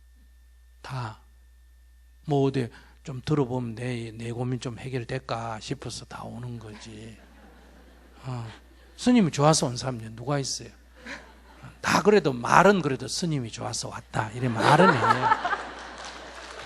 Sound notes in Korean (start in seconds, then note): 6.7 청중 웃음; 16.4 청중 웃음/박수